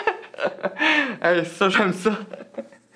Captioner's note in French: rire